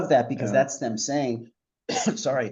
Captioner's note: coughs